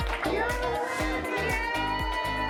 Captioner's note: applause; woman off-screen; applause and cheering